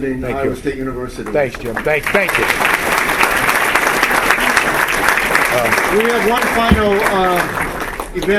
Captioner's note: applause